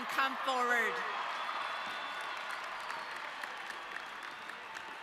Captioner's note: audience cheering